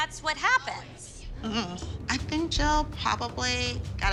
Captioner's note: laughs